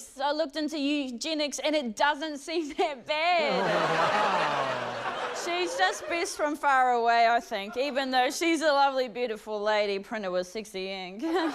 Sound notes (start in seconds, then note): 3.4 laughter; 11.0 laughs